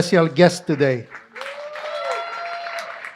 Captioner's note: applause